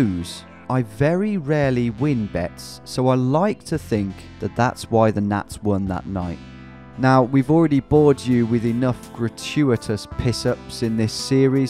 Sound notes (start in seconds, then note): none